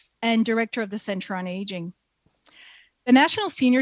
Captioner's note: speaking French